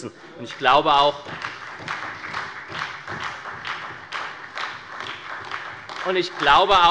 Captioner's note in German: Beifall bei der SPD